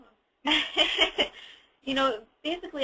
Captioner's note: laughs